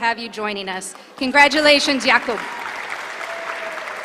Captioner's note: applause